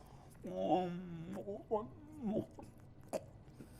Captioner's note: moaning